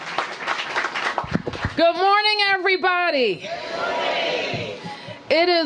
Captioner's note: applause